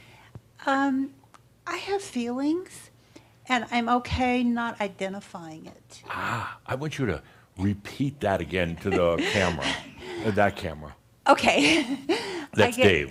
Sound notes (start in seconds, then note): 8.8 she chuckles